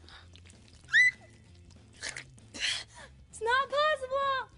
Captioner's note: hollers